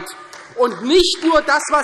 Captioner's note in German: Beifall Freie Demokraten - Zurufe BÜNDNIS 90/DIE GRÜNEN